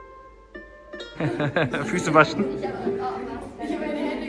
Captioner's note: laugh; speaking German